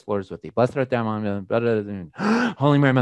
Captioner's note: mumbles